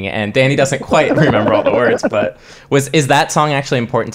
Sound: laughing

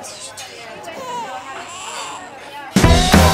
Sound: crying baby

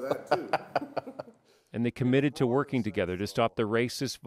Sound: laughter

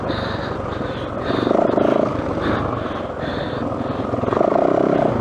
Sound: seals grunting; laughs

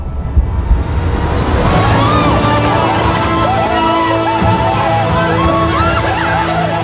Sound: dramatic music; group cheering

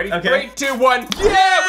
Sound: claps

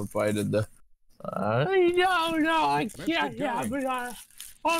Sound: imitating Carl Wheezer

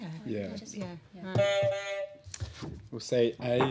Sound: honk

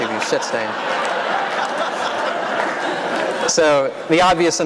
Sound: laughter

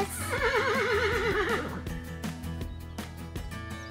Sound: horse neighs

